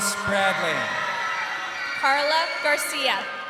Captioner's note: crowd cheering